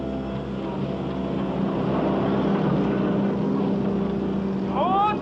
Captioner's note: engines rumble; shouts in Arabic